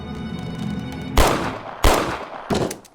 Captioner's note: gun falls to floor; gunshot